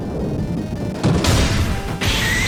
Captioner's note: muffled sounds of destruction